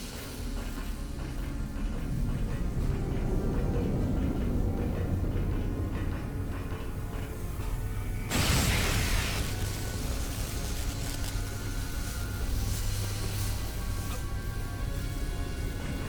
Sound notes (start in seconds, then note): 0.1 tense music; 8.2 explosion; 10.4 tense music